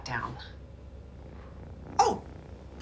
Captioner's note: purring